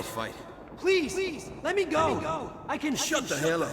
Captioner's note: as an echo from the past